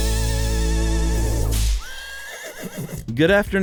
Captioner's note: horse neighs